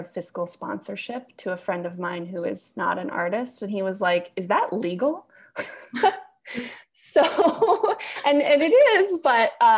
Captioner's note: giggles